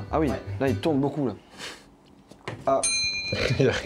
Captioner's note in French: souffle du nez